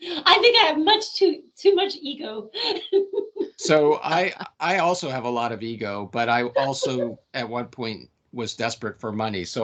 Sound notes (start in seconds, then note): 2.5 laughing